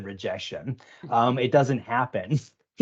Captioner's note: chuckling